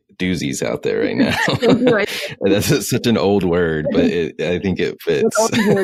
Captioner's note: both laugh